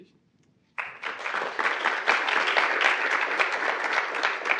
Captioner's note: audience applauding